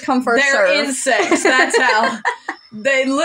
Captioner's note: laugh